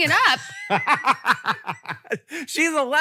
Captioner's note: Rachel and Hank laugh